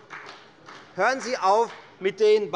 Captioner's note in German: Beifall bei der FDP